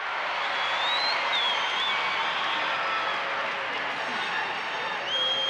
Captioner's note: audience cheering